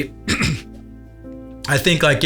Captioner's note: clears throat